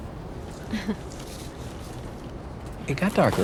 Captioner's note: chuckles